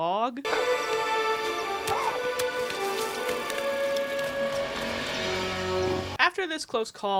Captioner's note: suspenseful music; branch thudding